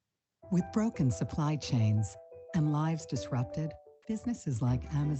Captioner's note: voiceover